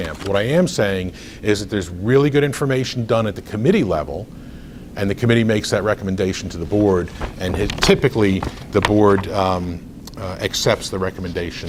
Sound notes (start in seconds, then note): 6.3 rustles papers